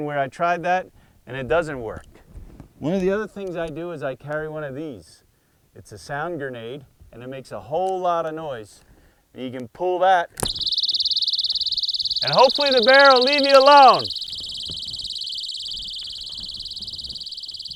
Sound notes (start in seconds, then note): 10.2 high-pitched sound; 11.3 shouts over noise